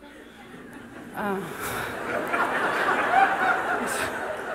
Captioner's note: laughter